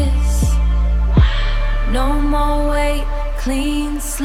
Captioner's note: mwah